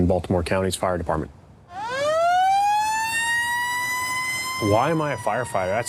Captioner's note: sirens